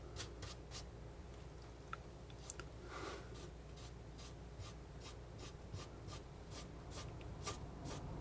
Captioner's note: scratching